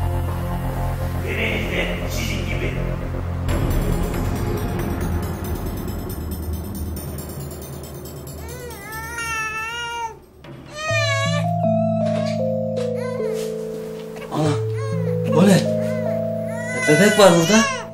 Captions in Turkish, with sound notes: (Bebek ağlıyor) O ne? Bebek var burada.